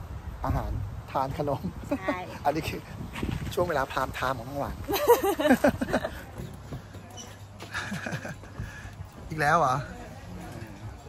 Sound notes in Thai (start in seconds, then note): 4.7 เสียงหัวเราะ